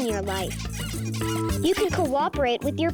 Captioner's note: toys squeaking